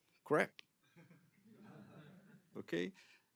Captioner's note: laughter